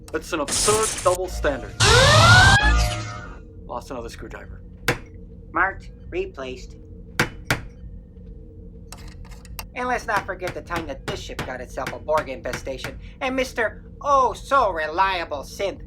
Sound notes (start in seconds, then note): 2.5 sound of a forcefield turning on. The vacuum and Red-Alert siren stop; 7.2 hammering and drinking; 8.9 screwdriver sounds; 10.1 hammering